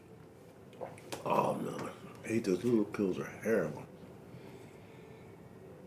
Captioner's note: gulps